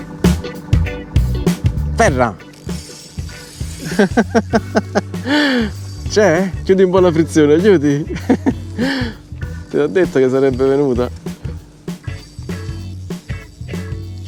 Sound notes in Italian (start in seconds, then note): 2.7 Risate